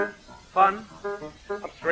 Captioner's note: spoken, sarcastic; singing